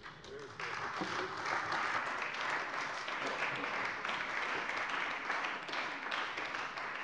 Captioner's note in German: Beifall bei der CDU und dem BÜNDNIS 90/DIE GRÜNEN